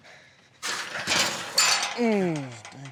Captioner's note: clanking sounds; groans